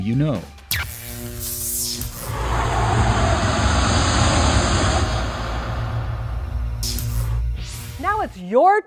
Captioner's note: sound Effects